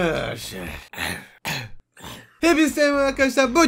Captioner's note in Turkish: Öksürme Sesi